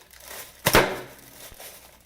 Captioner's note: +pop+